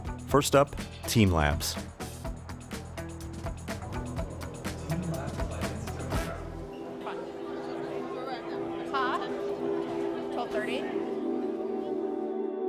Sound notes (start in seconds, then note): 5.0 over PA